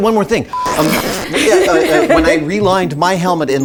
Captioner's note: screen scritches; laugh